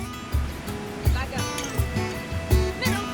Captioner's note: gentle music; waves crashing